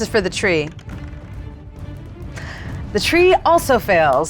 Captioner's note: die rattles